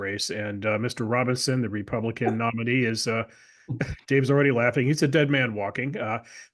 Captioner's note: laugh